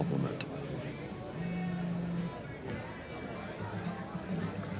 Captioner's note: phone buzzing; chatter